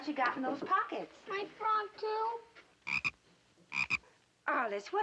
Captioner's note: frog croaks